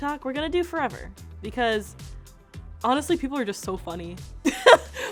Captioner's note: laughs